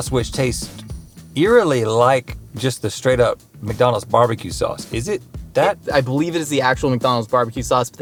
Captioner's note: none